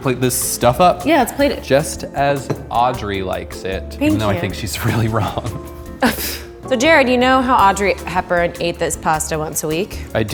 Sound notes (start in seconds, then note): 6.1 snorts